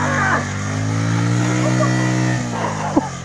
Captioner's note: more grunting; laughs